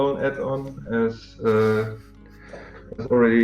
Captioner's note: тихо угарает